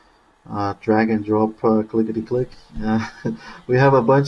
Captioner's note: laughing